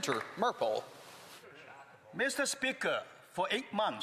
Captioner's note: speaking French